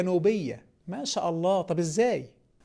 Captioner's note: sarcasm